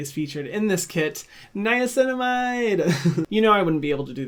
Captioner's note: laughs